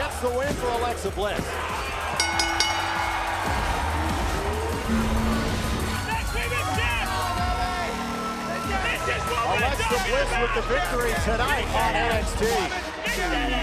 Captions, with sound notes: FOR ALEXA BLISS. >> [BELL RINGING] >> ALEXA BLISS WITH THE VICTORY TONIGHT ON NXT.